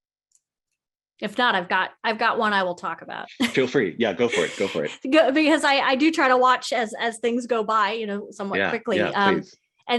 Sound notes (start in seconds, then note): 4.2 laughs